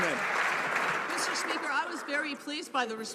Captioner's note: some Applause